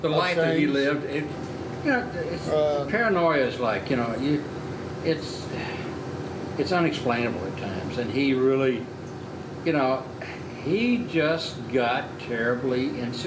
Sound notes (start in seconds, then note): 5.8 sighing